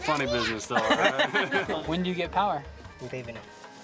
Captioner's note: laughing